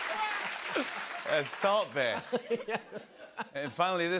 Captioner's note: laughs